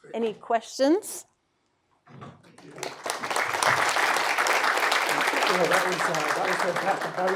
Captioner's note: applause